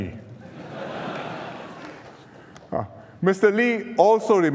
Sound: laughter

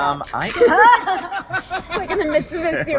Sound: laughter

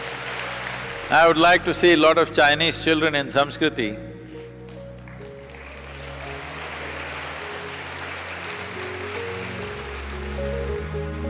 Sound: applause; applause

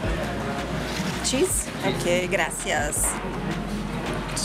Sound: in Spanish; in Spanish

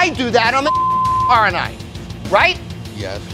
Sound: beep

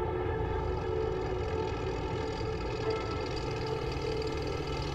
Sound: tank rumbling

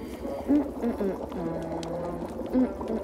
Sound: humming

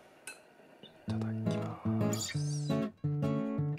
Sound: whispering

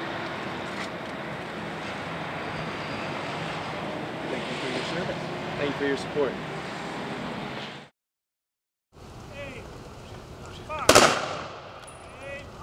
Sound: gun salute

